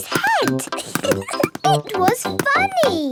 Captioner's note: giggling